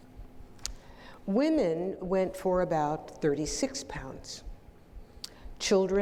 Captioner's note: none